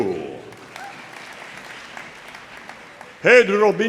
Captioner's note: audience applauding